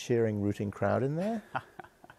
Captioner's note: laughs